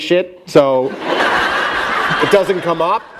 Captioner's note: laughter